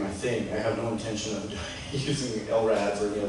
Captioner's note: chuckles